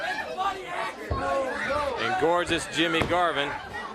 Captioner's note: crowd chatter